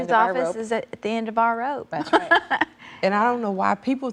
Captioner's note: laughs